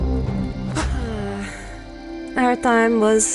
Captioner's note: Lake sighs